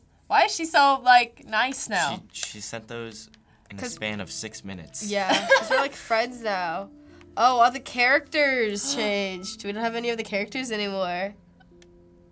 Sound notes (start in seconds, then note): 5.3 laughs; 9.2 gasps